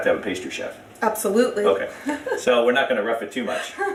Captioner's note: laughs